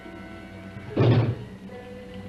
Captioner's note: knocks